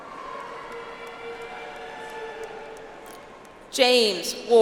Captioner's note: audience applauds